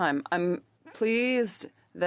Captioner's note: speaking French